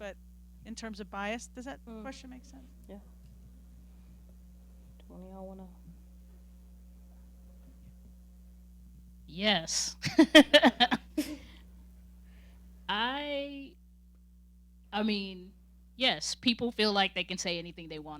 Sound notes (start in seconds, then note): 10.0 laughing